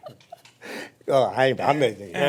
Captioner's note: laughing